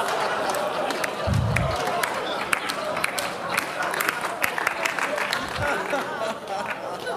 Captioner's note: Applause; 掌聲